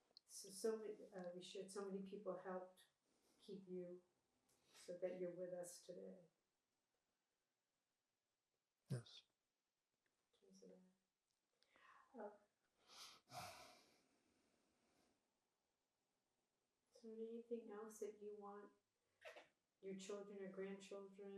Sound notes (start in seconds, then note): 12.9 sniffing; 13.8 sighing